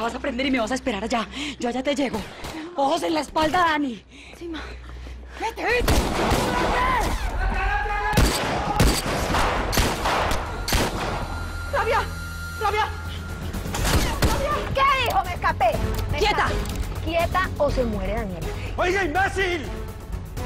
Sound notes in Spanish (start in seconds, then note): 6.5 Gritos; 8.1 Disparos; 13.8 Disparos